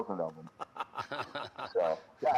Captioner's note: laughter